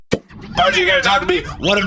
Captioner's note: upbeat music; sizzling sounds